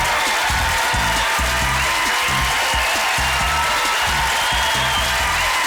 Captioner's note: applause